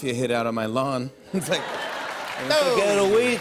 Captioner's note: laughter and applause; new York accent